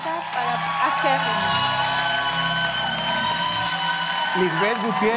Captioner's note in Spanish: Aplausos